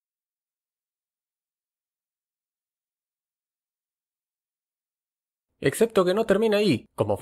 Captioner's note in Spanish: silencio